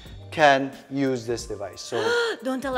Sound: gasps

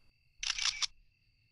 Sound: click click

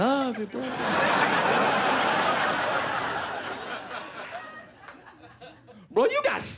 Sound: laughter

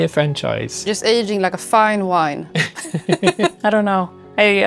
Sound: laughter

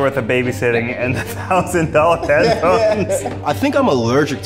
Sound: laughs

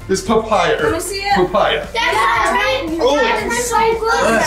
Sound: group chattering

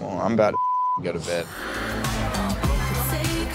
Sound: beep; pop music

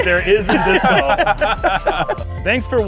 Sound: laughter

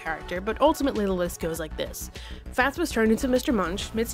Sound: none

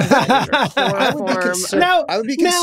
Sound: all laughing

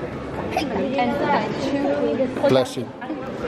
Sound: sneezes

